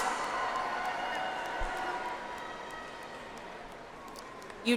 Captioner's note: audience applauds